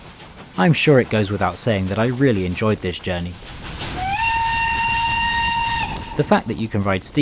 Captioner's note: whistle